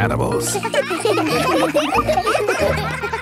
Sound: children laughing

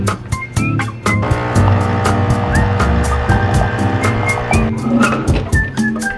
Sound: coffee machine clicks and whirs

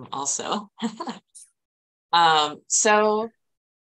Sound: chuckling

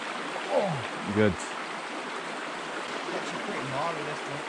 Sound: grunts

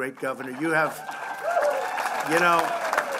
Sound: applause

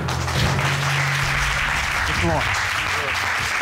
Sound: audience applauding

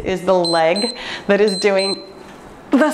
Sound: timer beeps

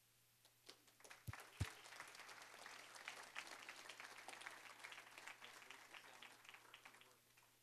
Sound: applause

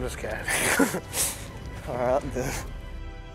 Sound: laughter

